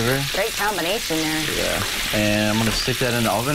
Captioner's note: sizzling